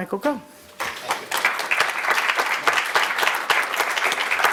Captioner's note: audience applauds